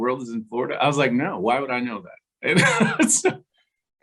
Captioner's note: laughing